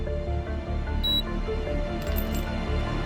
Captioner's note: machine beeps; gentle dramatic music continues